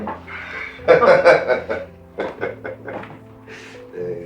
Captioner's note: both chuckle